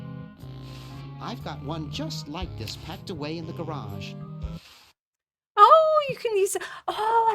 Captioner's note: gasp